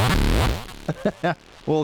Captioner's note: laughs